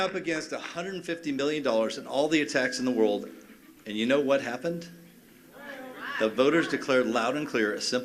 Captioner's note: cheers and applause